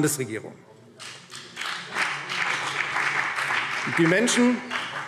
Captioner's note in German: Beifall CDU und BÜNDNIS 90/DIE GRÜNEN